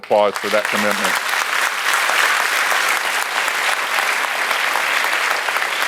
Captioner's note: audience applauds